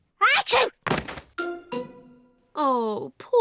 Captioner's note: sneezes